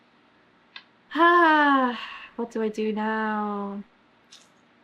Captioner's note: sighs